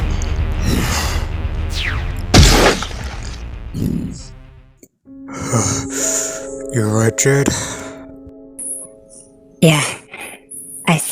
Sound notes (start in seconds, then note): 0.0 breathing heavily; 2.2 groans in pain; 7.5 deep Breath